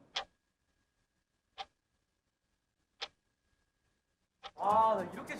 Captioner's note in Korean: 시계 초침 소리